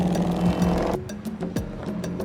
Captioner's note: horn honking